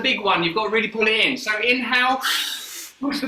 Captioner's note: inhales sharply